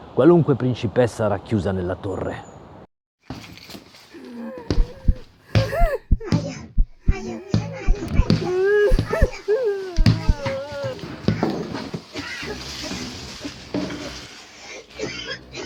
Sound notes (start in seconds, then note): 4.1 beats, blows, crying woman; 9.9 footsteps on the steps, heart beating; 12.9 coughing